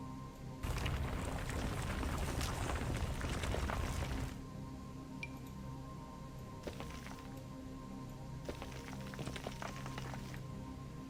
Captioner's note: intermittent gravel sounds